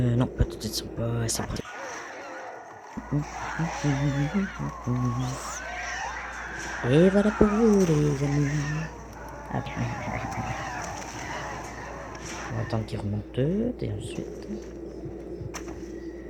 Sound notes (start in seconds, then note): 2.1 zombie screams and humming; 10.1 screams of zombies and cold blood